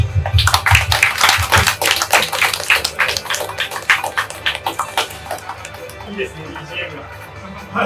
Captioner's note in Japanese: 会場拍手